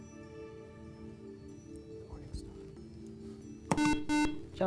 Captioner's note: whispering